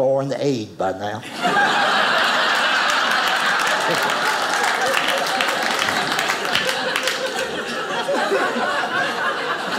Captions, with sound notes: some foreign aid by now. (audience applauding)